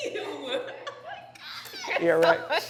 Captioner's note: laughs